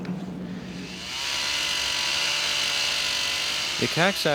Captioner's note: chainsaw buzzing